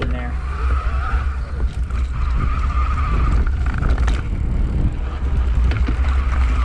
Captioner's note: clunking